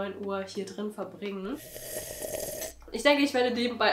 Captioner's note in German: Schlüüüürffff